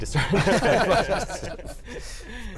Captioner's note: laughter